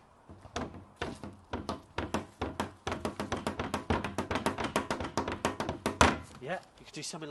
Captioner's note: banging sounds